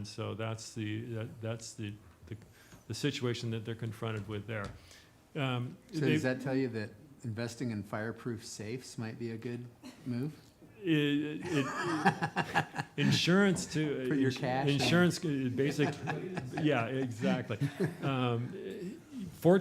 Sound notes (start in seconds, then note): 11.3 laughing